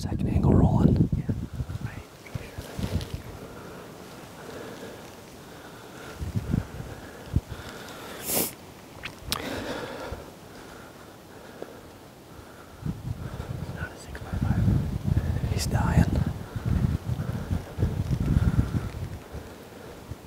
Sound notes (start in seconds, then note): 5.3 panting